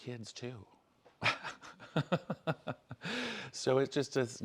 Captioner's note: laughter